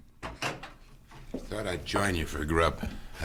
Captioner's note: door opens